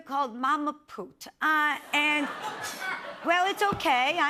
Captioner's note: laughter